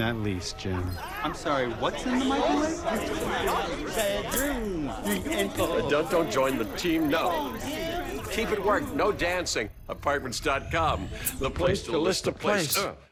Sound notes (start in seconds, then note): 3.2 all random discussions blend together